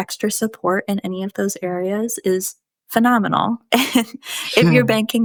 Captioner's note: chuckles